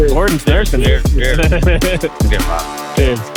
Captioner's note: person laughing